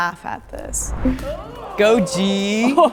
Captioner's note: air whooshing